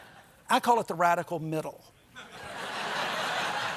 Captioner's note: laughter